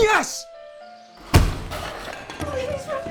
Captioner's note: furniture slamming